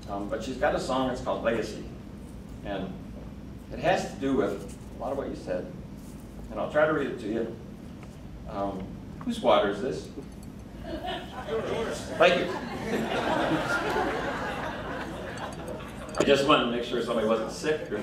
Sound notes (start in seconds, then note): 10.8 woman laughing; 13.3 crowd laughing